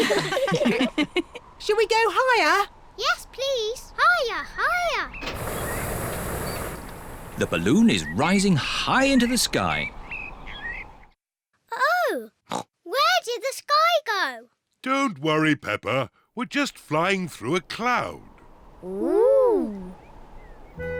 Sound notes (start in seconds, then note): 0.0 all laughing; 12.5 oinks